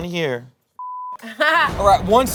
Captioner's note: beep